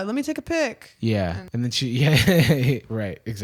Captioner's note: chuckles